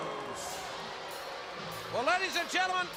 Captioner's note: crowd chatter